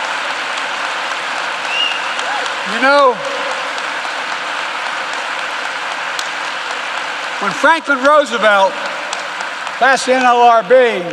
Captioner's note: applause